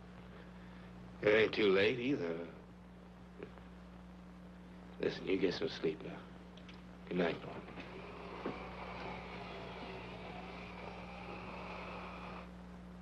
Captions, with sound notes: It ain't too late either. Listen, you get some sleep now. Goodnight. (electric motor whirring)